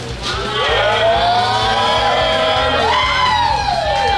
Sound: crowd cheering

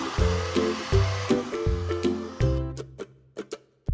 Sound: drill whirring; cheerful music

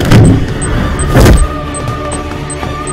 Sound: kicks

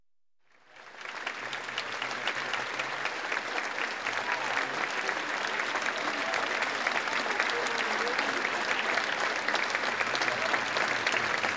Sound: applause

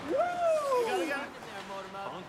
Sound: mixed chatter

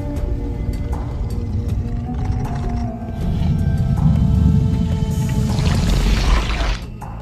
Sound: low Rumbles

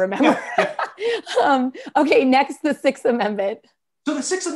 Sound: laughter

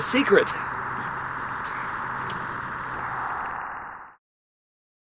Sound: static hums softly

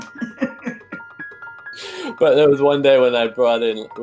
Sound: laughs

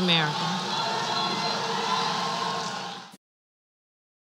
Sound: applause

